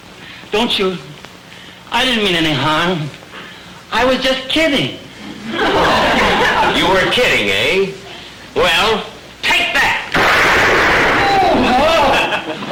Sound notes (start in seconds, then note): 10.1 gunshot